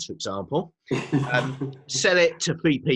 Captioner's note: laughs